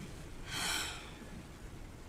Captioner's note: sighs